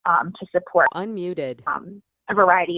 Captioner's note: beeping